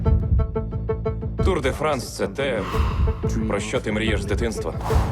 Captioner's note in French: en anglais